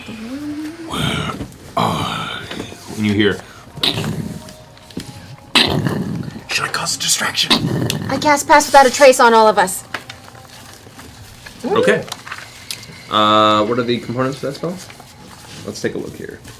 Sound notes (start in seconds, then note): 3.3 heavy footsteps